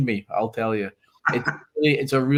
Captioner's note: laughs